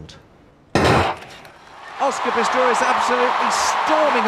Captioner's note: starting gun shoots